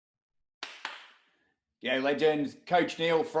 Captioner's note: hand claps